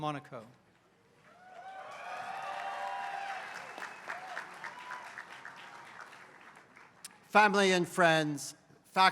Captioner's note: applause